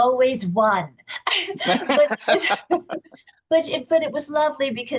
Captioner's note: laughs